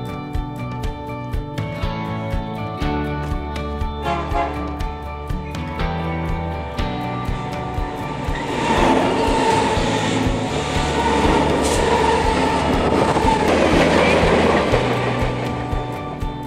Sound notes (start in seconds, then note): 4.0 train horn honks; 8.4 train roars